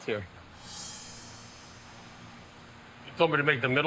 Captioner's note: sound whooshing